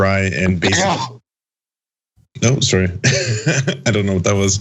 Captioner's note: laugh